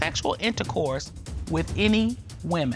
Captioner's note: none